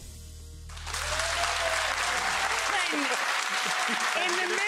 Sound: audience applauding

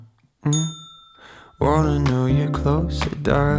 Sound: rings bell

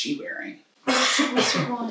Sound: cough

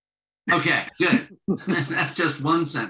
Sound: laughter

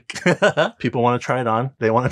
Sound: laughing

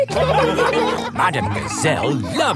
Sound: laughing

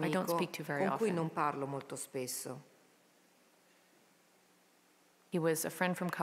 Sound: speaking in a foreign language

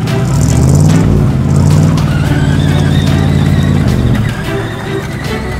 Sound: dramatic music; engine revving

